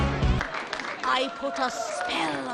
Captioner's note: clapping